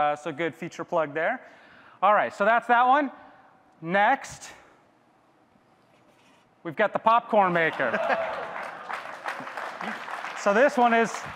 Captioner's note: audience claps